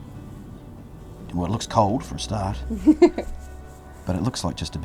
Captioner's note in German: lacht